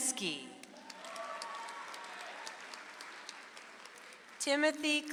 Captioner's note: audience applauds